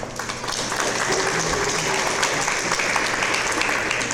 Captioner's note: audience applause